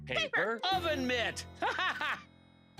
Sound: laughs

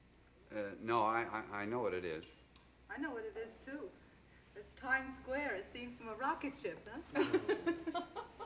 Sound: Betty laughs

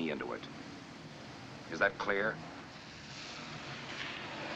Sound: vehicle Approaching

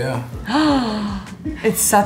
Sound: gasps

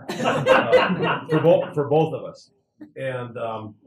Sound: laugh

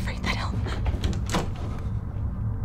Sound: door opening

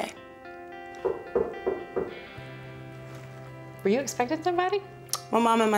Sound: gentle knocking

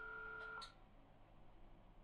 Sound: click

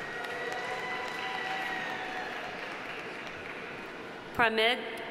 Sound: audience applauding

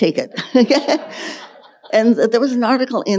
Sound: laughs; audience laughing

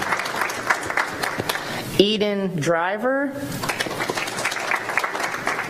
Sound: applause

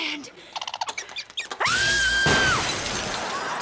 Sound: screaming

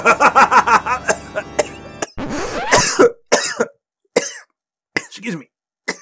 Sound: laughter; coughing

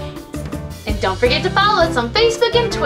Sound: voiceover

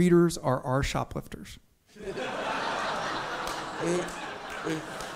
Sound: audience laughs

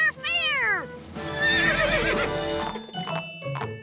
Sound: neighing

